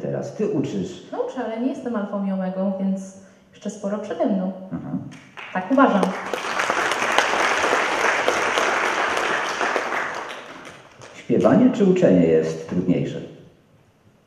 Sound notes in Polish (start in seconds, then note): 5.1 aplauz